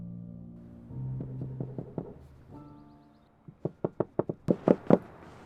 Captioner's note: knuckles rapping